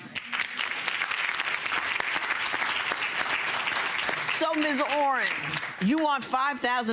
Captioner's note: audience applauds